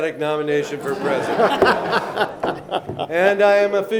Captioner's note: laughing